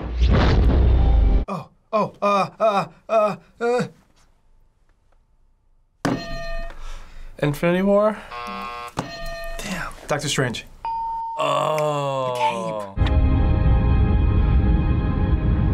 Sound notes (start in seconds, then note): 0.0 loud whoosh; 6.1 hitting bell; 8.2 buzzer; 10.9 ding; 11.9 snaps; 13.0 sweeping orchestral music